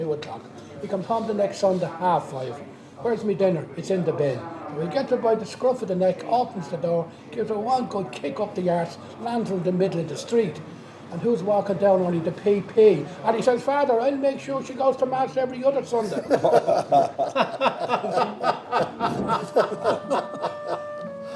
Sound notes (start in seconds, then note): 18.1 laughing